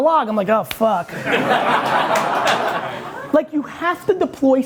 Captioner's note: audience laughing